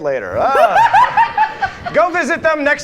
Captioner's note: all laugh